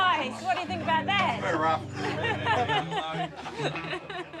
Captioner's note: laughs